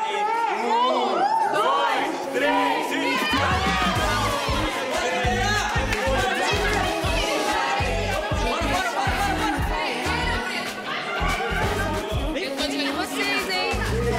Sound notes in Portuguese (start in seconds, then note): 4.0 falatório